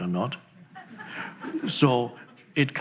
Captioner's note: audience laughs